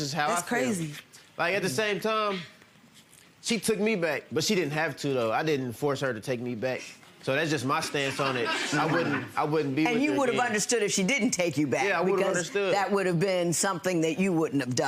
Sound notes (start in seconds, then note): 7.8 audience laughing